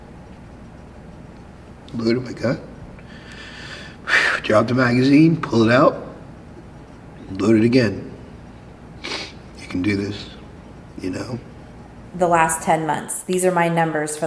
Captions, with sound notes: loaded my gun, (sighing) drop a magazine, pull it out, load it again. (sniffing) You can do this. You know? - "The last 10 months, these are my numbers